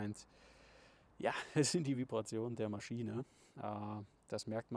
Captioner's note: laughs quietly